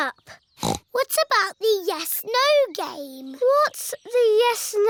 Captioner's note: snorts